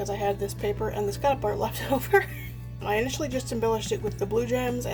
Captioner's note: laughs